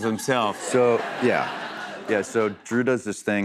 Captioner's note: laughter